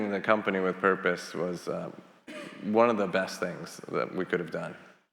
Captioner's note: attendee coughing